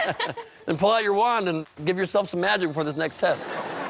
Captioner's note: laughter